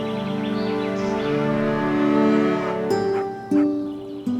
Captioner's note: birds chirping; cows mooing; Clementine barking